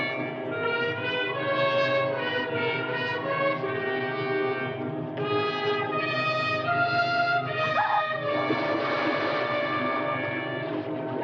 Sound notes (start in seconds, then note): 7.7 Kathleen screaming; 8.4 water splashing